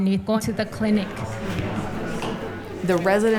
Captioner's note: chatter